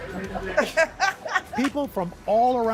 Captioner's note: laughter